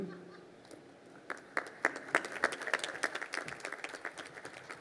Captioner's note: crowd applauding